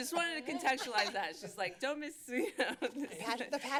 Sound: laughter

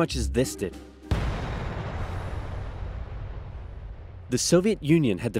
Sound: A-Bomb kaboom

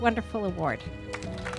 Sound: applause

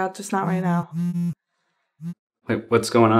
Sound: phone vibrating

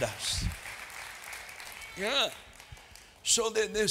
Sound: applause

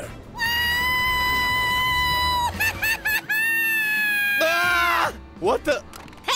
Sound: screaming

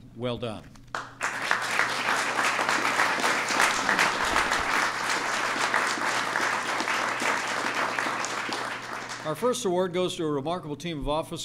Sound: applause

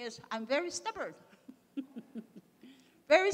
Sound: laughs

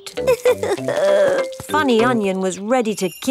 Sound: crying

